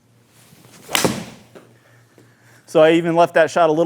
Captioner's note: club smacking